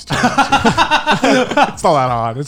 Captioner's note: laughing